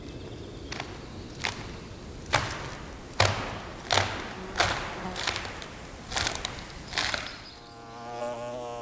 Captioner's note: tearing sound of wood; buzzing bee